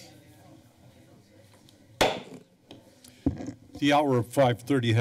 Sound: gavel tap

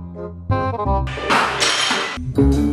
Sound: plates crashing on the ground

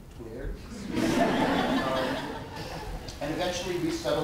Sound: audience laughter

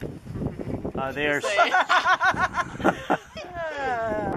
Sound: laughter

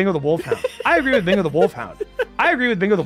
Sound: laughs

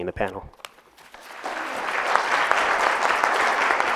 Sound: applause

